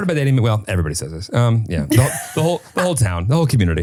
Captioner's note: laughing